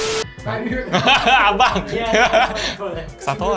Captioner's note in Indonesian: Tertawa